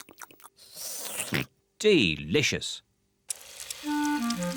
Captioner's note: slurps and oinks